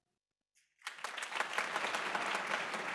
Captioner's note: applause